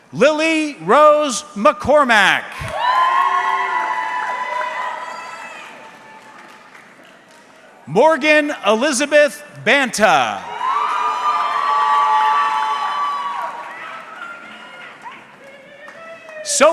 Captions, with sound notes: Lily Rose McCormack. (audience cheering) Morgan Elizabeth Banta. (audience cheering)